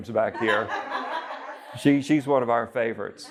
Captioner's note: all laughing